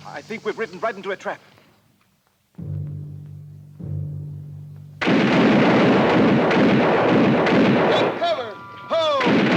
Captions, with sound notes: I think we've ridden right into a trap. (guns fire) - Take cover, ho!